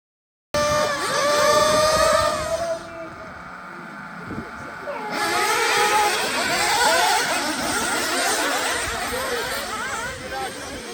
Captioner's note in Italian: engine sound